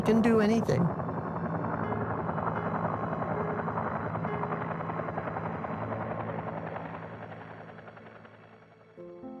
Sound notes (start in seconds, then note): 1.8 gentle music; 1.8 helicopter whirring